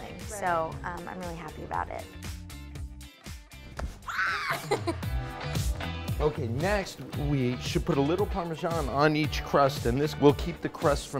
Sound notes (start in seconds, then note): 4.0 exclaims; 4.4 upbeat music